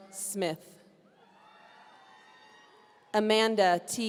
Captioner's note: audience cheering